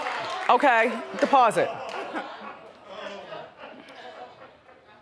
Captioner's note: audience laughs